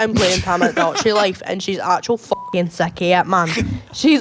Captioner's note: beep